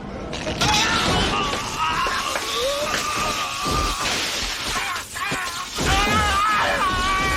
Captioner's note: electricity buzzing; man grunting